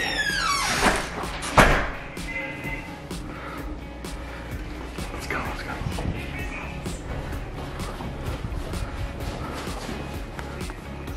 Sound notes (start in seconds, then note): 0.0 door closes; 7.2 shuffling